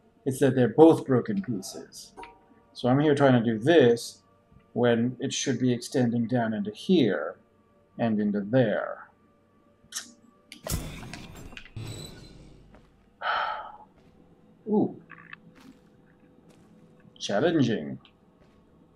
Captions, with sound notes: it's that they're both broken pieces. So I'm here trying to do this, when it should be extending down into here, and into there. [tsks] [sighs] Ooh! Challenging.